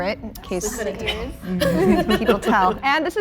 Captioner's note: group laughing